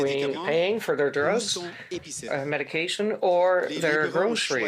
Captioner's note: speaking French